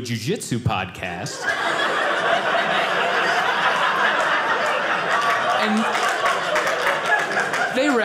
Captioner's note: audience laughing